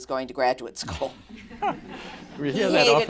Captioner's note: laughter